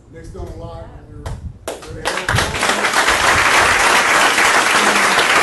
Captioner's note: audience applauding